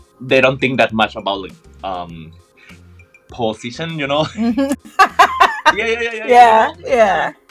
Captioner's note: laughs